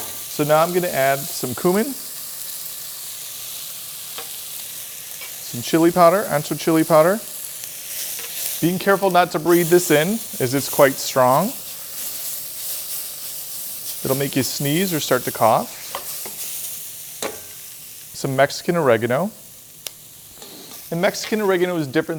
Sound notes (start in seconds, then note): 3.1 pan sizzling; 12.0 pan sizzling; 16.1 pan sizzling